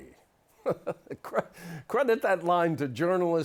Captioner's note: laughter